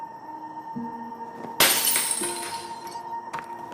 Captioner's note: glass shattering